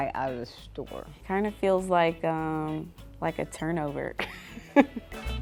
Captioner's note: laughs